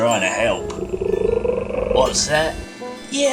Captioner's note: turtle trilling